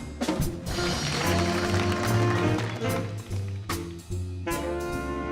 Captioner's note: audience applauding